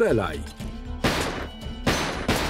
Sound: gunfire

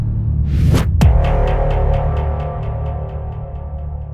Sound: boom

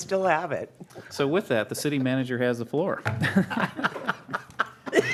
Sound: laughter

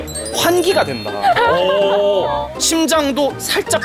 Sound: laughing

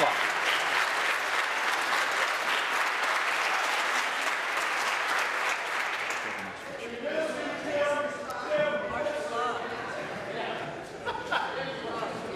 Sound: applause

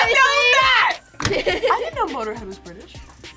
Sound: laughs

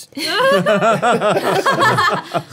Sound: all laughing

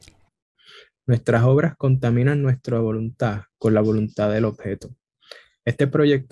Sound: speaks in foreign language

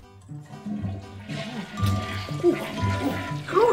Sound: toilet flushing

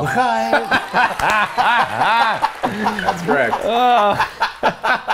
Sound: both laugh

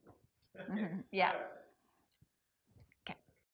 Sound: giggles

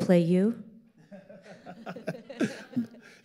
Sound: all laughing

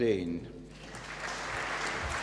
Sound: applause

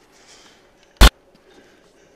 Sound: sudden static

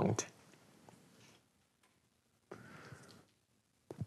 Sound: silence

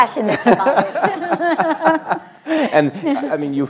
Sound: laughs

